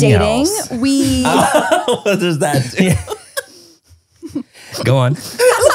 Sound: laugh

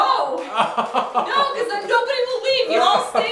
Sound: laughing

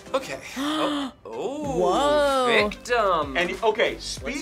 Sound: gasps

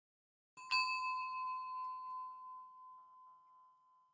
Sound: bell chiming

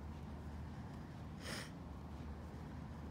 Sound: sniffles

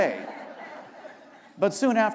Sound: laughter

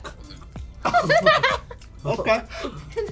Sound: laughs

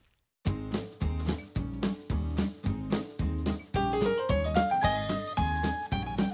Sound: splat

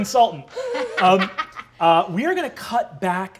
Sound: laughing

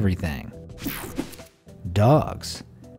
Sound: electricity buzzing

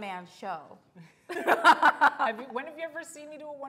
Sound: laughs

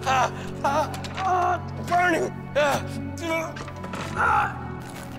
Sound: screaming

